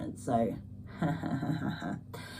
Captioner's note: laughs